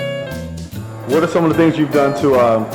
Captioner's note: jazz music; voiceover